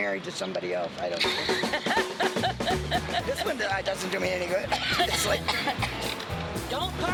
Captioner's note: laughter